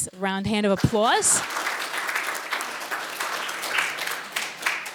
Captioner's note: applauding